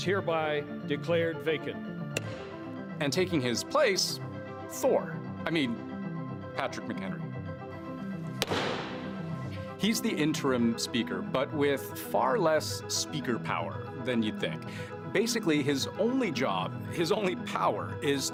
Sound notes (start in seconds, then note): 6.1 gavel